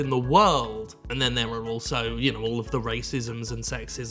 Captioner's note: mutters